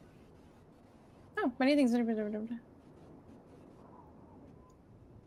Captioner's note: speaks faintly